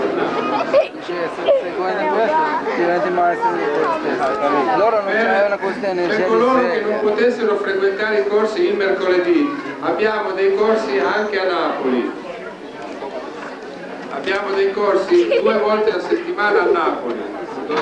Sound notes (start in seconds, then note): 11.3 italian